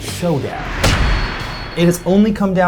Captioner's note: metal thudding